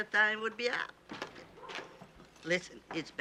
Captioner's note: door opens